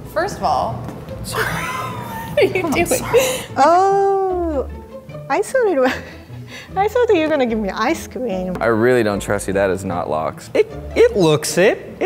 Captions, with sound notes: First of all. - Sorry. - (laughs) What are you doing? - Oh. I thought it was... (laughs) I thought that you were gonna give me ice cream. - I really don't trust you, that is not lox. - It looks it.